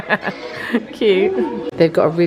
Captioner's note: laughing